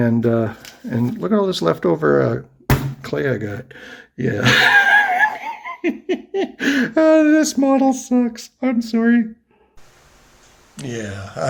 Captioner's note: laughing